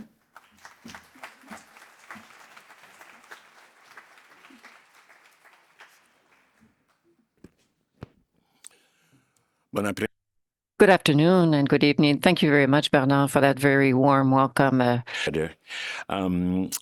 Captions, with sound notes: (applause) Translator/Good afternoon and good evening Thank you very much Bernard for that very warm welcome.